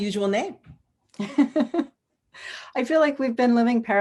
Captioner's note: laughs